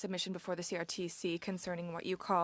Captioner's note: speaking French